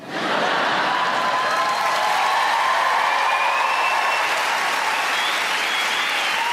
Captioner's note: audience laughing; audience cheering and clapping